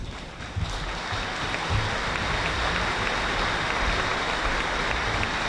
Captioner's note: audience applauding